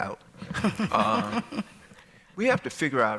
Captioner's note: laughter